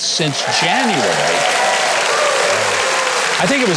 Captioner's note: audience applauding